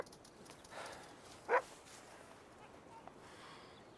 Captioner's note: Jack sighs